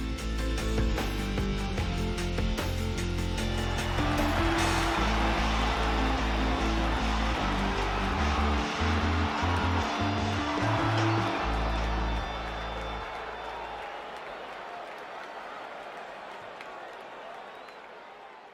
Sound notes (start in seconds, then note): 0.1 dramatic upbeat music; 4.0 crowd cheering and applauding